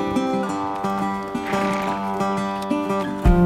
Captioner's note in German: Leises Schnauben